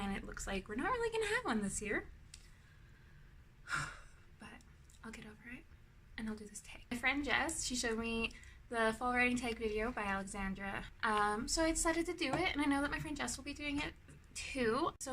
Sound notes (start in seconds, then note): 3.6 loud exhale